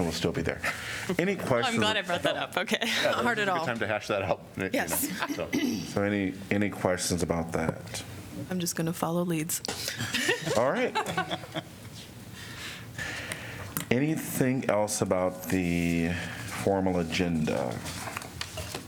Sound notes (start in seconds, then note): 2.9 laughter; 9.9 laughter